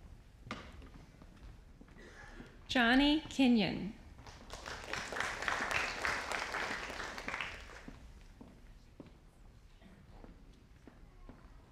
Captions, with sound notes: Johnny Kingyon. (audience applauding)